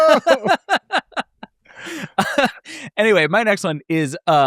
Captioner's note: laugh